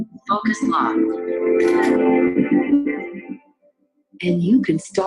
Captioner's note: camera shutter clicking